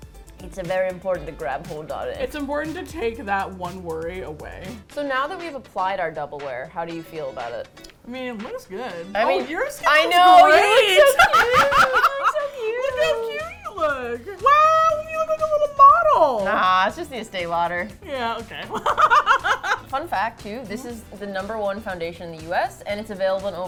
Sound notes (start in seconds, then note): 10.1 laughs; 18.6 laughs